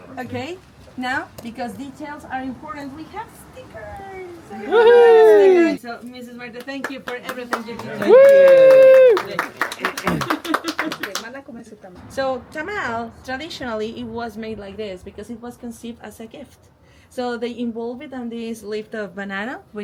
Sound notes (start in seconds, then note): 6.5 all applaud